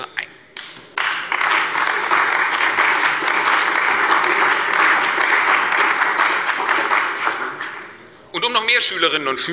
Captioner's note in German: Beifall bei der CDU und dem BÜNDNIS 90/DIE GRÜNEN